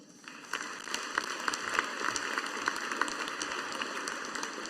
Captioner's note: audience applauding